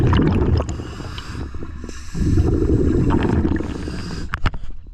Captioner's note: audible breathing